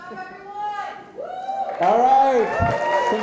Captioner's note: audience cheering and applauding